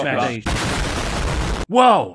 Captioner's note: explosion